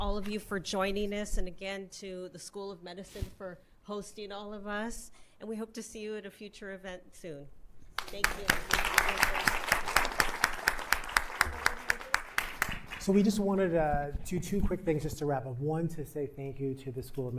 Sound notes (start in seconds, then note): 8.0 applauds